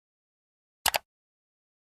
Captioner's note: mouse click sound